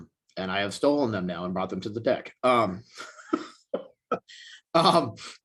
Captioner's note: chuckles